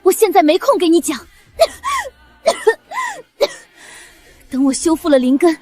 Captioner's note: cough cough cough cough